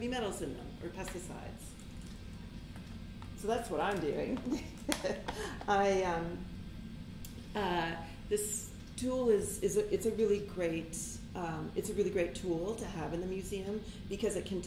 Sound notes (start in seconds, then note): 4.3 chuckles